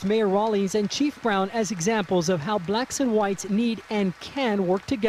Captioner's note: applause